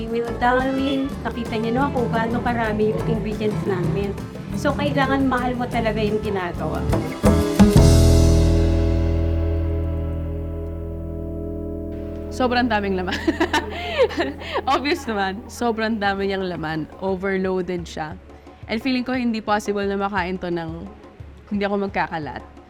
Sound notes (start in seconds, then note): 13.0 chuckles